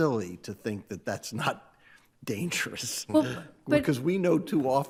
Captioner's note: chuckles